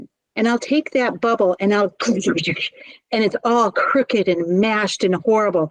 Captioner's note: mashing noises